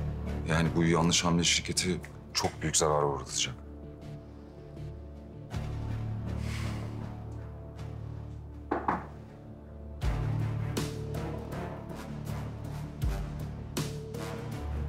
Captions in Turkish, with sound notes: Yani bu yanlış hamle, şirketi çok büyük zarara uğratacak. (Kapı)